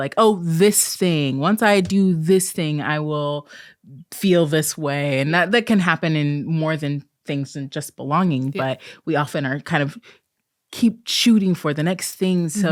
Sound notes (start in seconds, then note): none